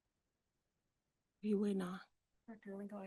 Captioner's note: director speaks faintly